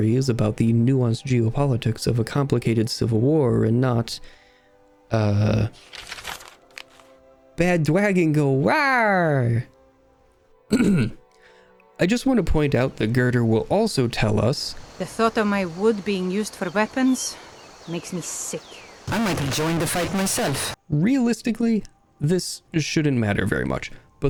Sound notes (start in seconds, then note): 5.8 paper rustle; 10.7 clears throat; 18.8 distorted